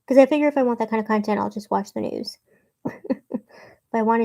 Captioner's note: chuckles